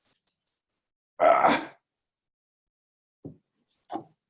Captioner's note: groans